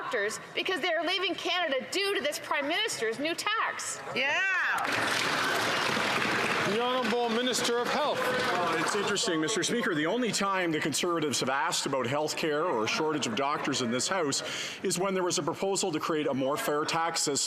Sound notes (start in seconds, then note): 9.6 some Applause